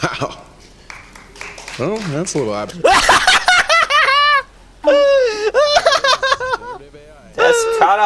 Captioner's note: laughs